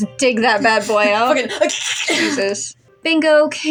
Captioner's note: ripping Sound